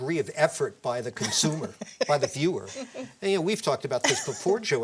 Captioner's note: laughter